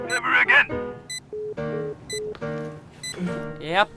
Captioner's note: sound of a phone hanging up